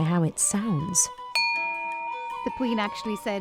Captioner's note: crystal ringing